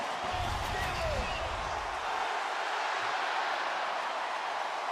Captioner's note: swoosh